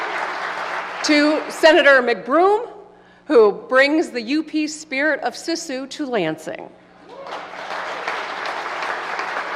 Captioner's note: applause